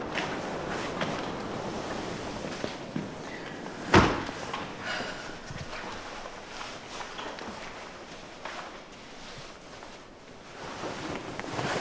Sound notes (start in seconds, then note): 3.4 door shuts